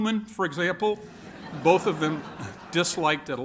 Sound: laughter

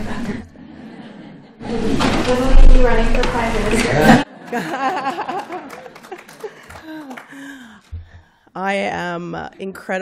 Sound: laughter

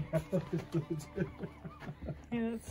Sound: laughters

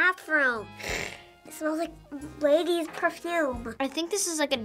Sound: sniffs loudly

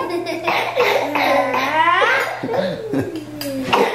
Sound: kids coughing

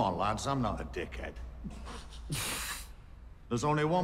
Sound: snickering

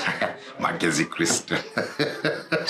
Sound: chuckles

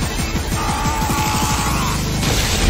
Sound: upbeat music; Party Pete screams; explosion booms

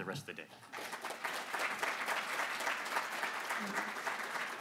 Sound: applause

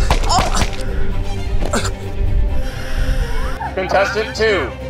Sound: paint splattering

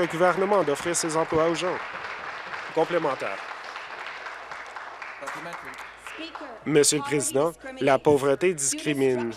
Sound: applause

